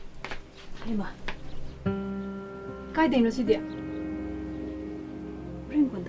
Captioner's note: woman speaking in a foreign language